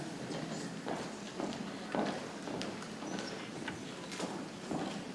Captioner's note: people chattering softly